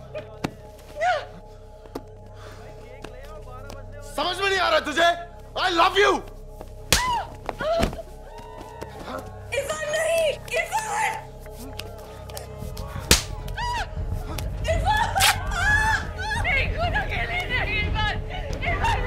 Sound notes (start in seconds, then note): 0.7 Meher grunts; 6.8 Slaps; 7.0 Meher groaning; 13.0 Slaps